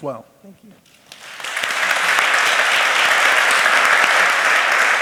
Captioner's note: applause